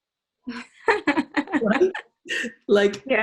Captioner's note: laughs